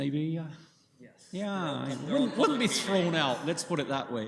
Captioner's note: laughter